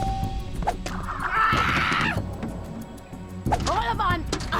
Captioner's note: eva screaming